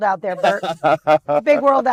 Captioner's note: laughing